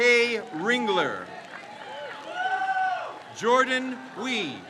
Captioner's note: crowd cheers